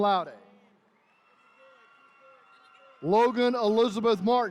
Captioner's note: attendees cheering